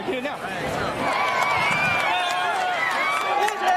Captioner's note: cheering